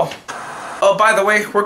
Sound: TV static

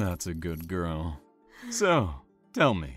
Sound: shaky breath

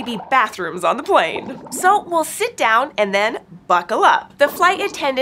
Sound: squeaks squeaks

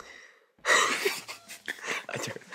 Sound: burst out in laughter

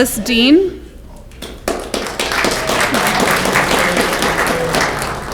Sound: audience clapping

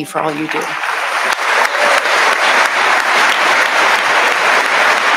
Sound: audience applauding

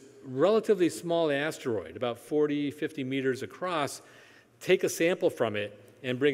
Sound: none

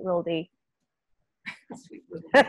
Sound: laughter

